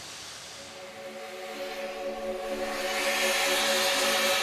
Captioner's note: smooth, contemplative ambient music; steam hissing